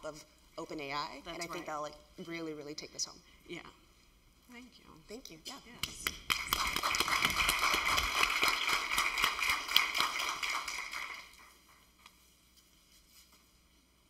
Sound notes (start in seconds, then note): 5.9 applause